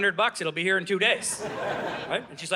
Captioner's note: audience laughing